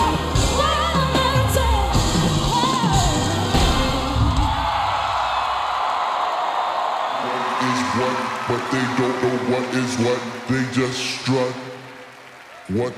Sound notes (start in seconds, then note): 4.1 audience screaming